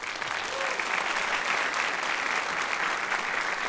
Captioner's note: applause